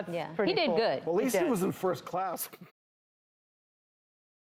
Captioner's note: laughs